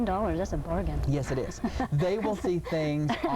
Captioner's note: laughing